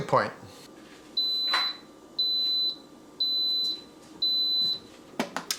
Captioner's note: Instant Pot beeps